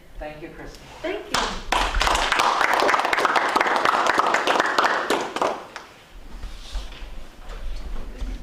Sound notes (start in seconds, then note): 3.3 applause